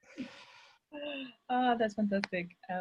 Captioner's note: chuckles